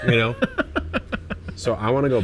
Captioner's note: laughs